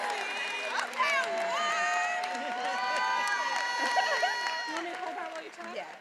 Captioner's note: attendees applauding and cheering